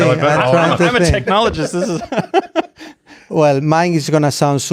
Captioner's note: laughs